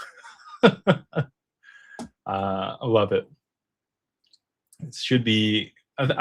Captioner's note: laughter